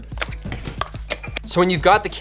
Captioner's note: click sounds